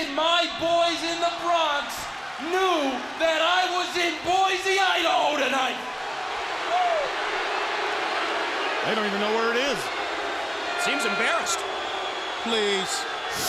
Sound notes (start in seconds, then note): 8.2 crowd cheering